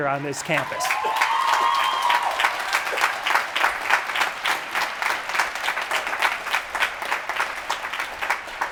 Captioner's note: applause